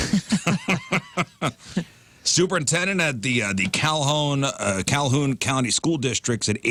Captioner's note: both Laughing